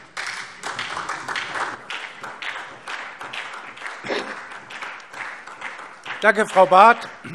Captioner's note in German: Beifall SPD